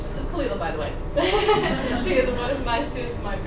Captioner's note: students laughing